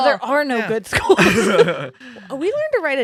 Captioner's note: laughing